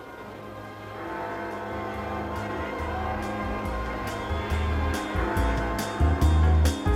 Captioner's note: clock chiming